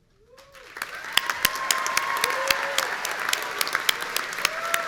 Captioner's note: audience cheering